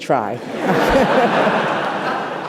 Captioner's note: laughter